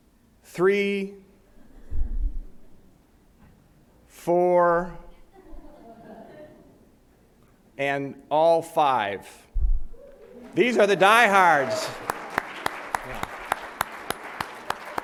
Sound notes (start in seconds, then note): 5.3 audience laughs lightly; 12.1 applause